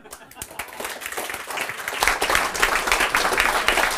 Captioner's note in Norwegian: Applaus